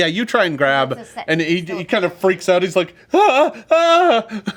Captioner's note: whimpering